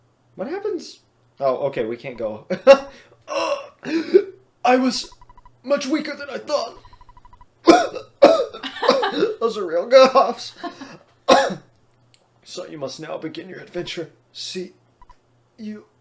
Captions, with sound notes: What happens-- oh okay, we can't go-- [Laughs] "Augh, oh, I was... ...much weaker than I thought..." [Real coughs] (Laughs) Those are real coughs... "So you must now begin your adventure... see... you..."